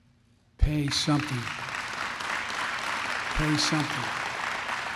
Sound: applause

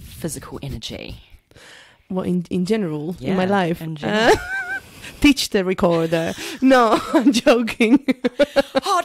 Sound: laughs

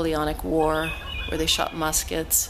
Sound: laughing

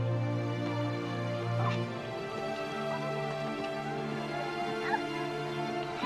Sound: children chattering and laughing

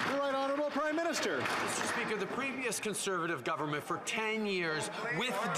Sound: some Applause

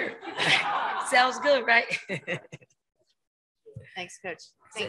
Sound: chuckles

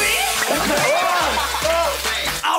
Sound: giggles

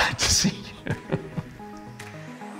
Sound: laughs

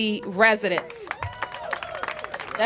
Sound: cheers and applause

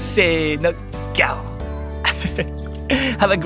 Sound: lion roar in Japanese

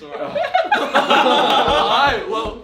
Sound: all laugh

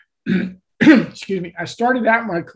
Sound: clears throat

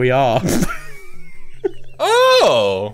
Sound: laughs

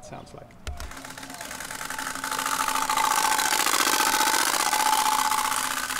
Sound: bike spokes sound

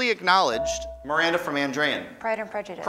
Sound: ding

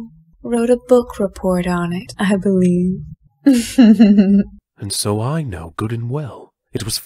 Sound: she laughs

